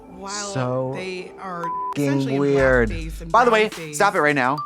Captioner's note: beep